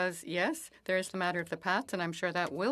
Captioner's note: speaking French